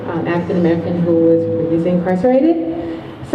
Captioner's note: none